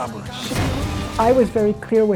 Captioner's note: bomb explodes